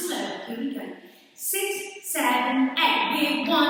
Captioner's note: counting 6 7 8